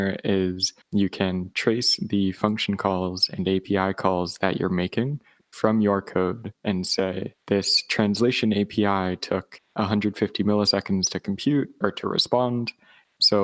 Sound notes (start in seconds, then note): none